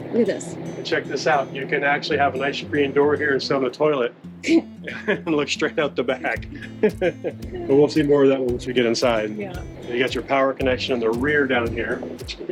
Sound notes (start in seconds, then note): 4.4 chuckles